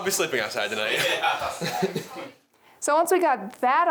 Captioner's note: laughing